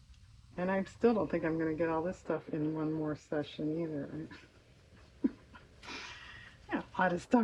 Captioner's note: laughs